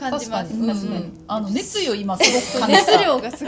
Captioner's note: laughs